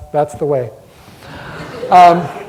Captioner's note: audience laughter